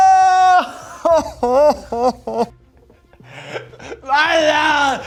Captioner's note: sobbing